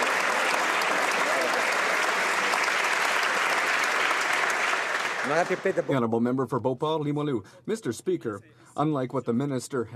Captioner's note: some Applause